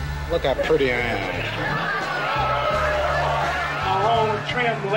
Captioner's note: crowd awes